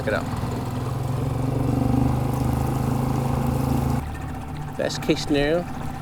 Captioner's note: engine chugging